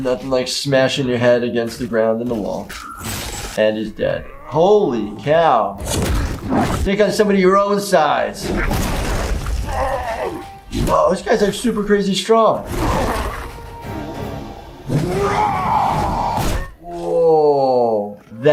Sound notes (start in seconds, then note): 4.2 electric shock; 13.5 fist punch